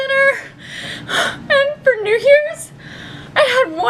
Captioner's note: cries